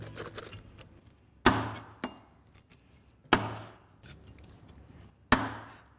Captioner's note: chopping